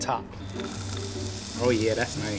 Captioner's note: sizzling